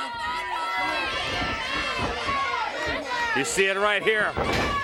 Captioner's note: crowd cheering